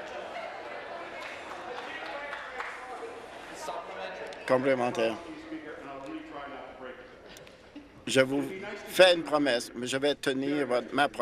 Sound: laughter

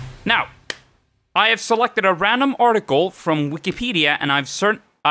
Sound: clap

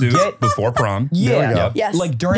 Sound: laughing

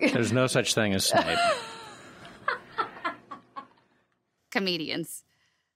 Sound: laughter

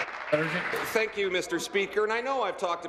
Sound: applause

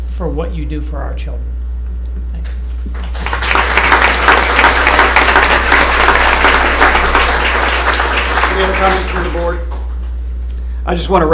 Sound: applause

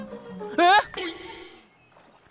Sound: eh

